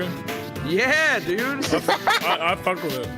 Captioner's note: laughs